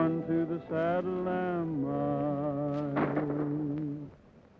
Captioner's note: gunshots